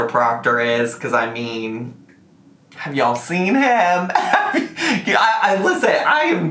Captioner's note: laughs